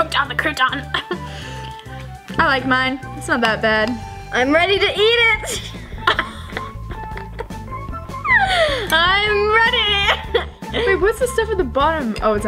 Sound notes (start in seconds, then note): 5.4 laughs; 6.5 uptempo, bouncy music